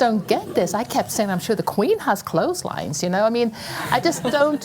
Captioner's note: laugher